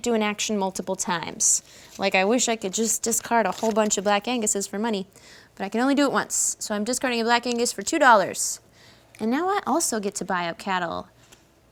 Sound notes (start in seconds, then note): none